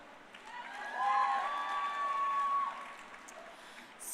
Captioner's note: crowd cheering